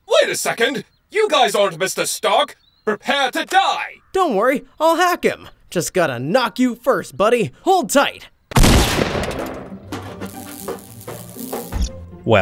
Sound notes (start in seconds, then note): 8.5 gun fires; 9.9 upbeat music; 10.2 electricity whirring